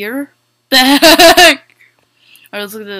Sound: laughter

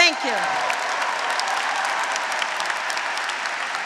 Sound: graduates cheering; graduates, audience, and faculty applauding

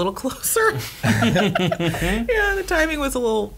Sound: laughing

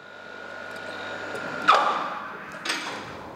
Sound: whirring, dull beeping

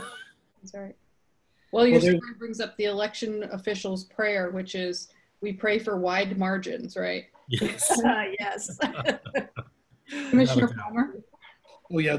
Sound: laughing

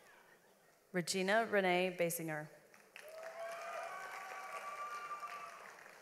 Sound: audience applauds

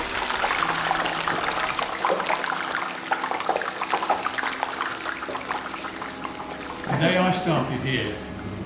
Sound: sound of deep fat fryer and sizzling

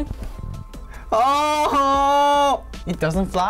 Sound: exclaims; laughs

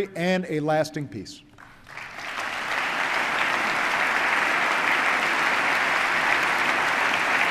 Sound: applause

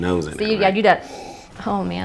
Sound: sniff

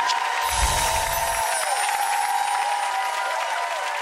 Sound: audience applauds

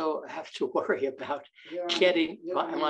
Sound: chuckles

